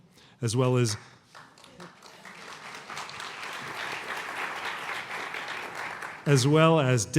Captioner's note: applause